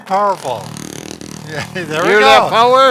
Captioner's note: massager buzzing